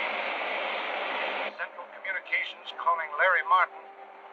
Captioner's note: man on radio